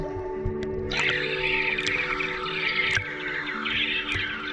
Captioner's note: underwater sounds continue; birds cawing